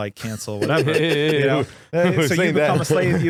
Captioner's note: laughing